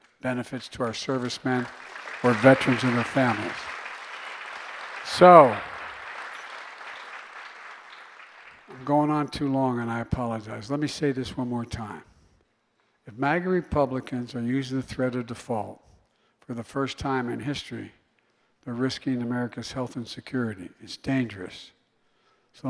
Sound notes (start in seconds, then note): 3.8 applause